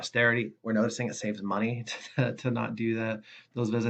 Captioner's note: laughs